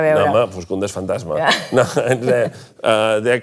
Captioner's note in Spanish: ríe